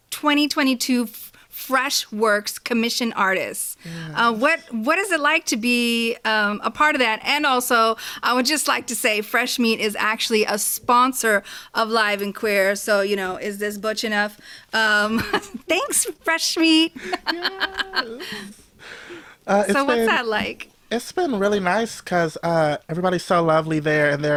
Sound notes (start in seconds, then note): 15.1 both laugh; 16.9 laughs